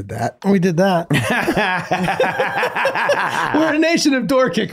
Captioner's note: everyone laughing